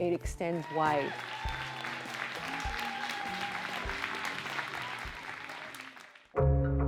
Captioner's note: audience applauding and cheering